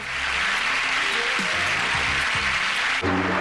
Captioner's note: crowd applauding; dramatic music